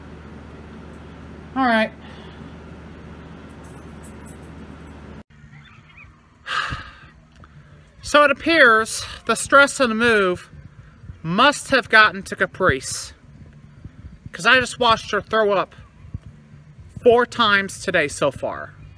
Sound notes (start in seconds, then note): 6.4 sighs